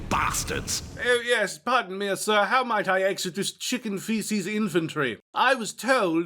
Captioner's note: posh accent